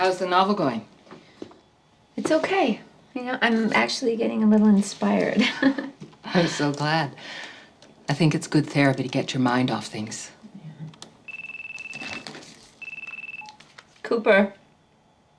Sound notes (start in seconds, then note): 5.4 chuckling; 11.2 phone rings